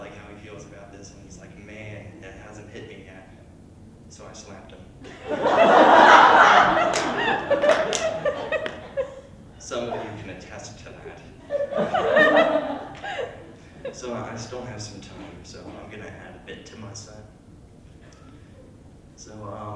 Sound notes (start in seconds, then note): 5.0 large laughter; 10.9 laughter